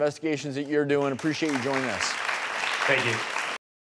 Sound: audience applauding

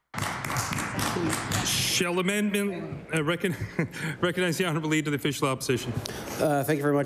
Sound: some Applause

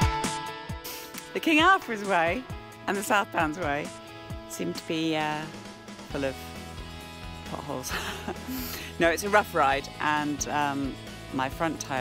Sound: laughs

